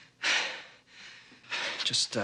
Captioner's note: panting